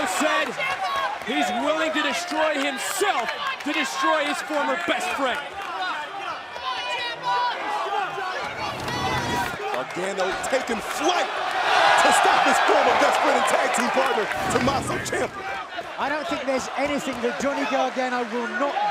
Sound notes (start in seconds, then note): 8.8 crowd chatter